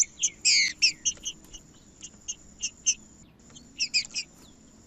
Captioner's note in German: trinca ferro cantando; trinca ferro cantando